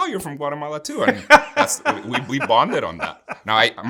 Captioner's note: laughing